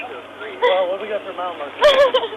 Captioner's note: crying